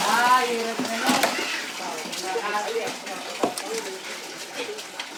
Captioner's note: people chattering